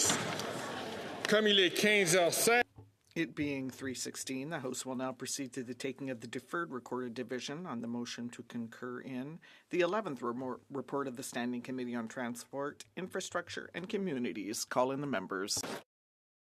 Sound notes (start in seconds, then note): 6.6 speaking French